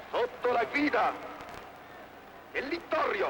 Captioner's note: speaking italian